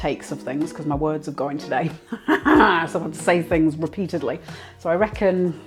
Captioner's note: laughs